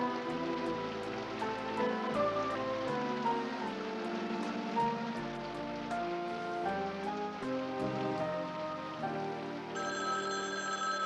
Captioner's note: water Running